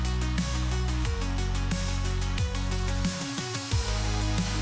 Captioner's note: clap